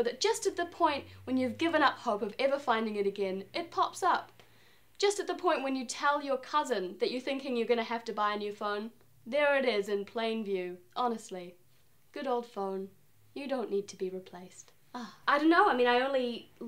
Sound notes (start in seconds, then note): 14.9 happy sigh